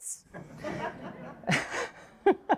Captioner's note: all laugh